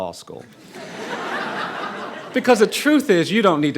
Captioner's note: audience laughing